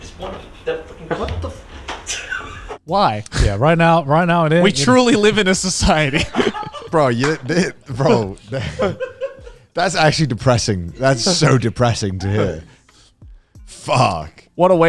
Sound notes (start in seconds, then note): 6.3 group and crew laughing; 13.8 laughs